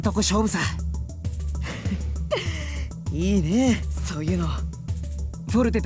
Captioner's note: chuckle